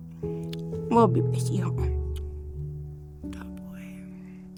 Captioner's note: speaking Cree; kissing sounds